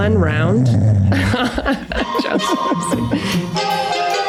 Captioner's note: Meg laughs; Charlie snoring; transition music